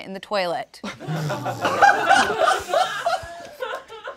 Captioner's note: all laughing